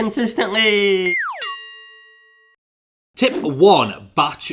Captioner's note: bell rings